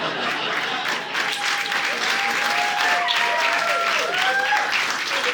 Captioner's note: audience laughing; audience applauding